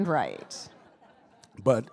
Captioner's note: attendees laughing